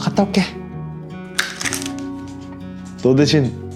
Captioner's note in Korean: 바스락소리